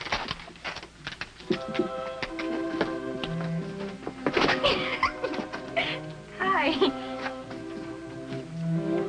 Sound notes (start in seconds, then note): 1.4 soft music; 4.4 giggling